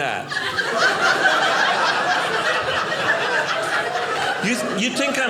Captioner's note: audience laughing